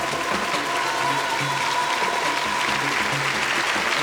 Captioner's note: applause